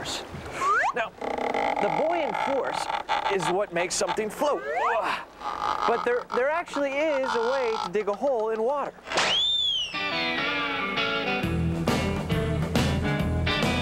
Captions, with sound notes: NOW THE BUOYANT FORCE IT WHAT MAKES SOMETHING FLOAT. ( groans ) BUT THERE ACTUALLY IS A WAY TO DIG A HOLE IN WATER. ( high-pched whistle )